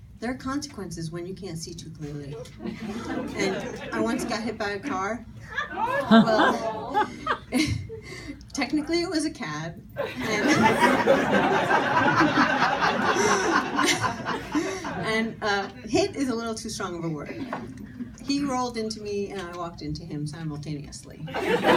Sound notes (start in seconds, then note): 5.4 audience gasping; 10.0 audience laughing; 21.3 audience laughing